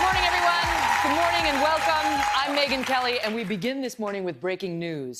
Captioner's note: applause